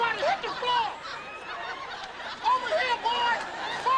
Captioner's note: audience laughing